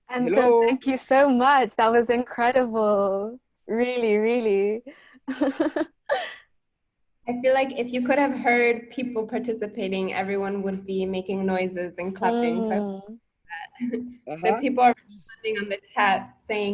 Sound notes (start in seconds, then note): 5.5 laughs